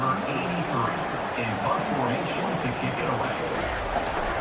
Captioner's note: crowd Noises